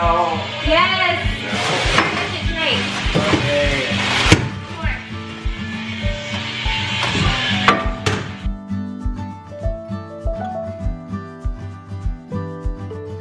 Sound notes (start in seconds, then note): 2.8 whining